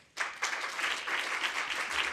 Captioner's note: applause